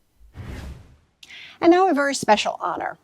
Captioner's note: air whooshing